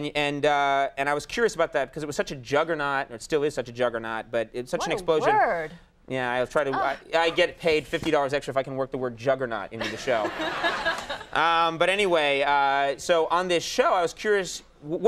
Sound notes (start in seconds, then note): 9.8 audience laughing; 10.5 Ming-Na laughs